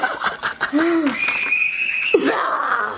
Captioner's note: laughing; frustrated sigh; baby screams